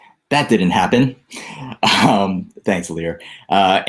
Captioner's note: laughs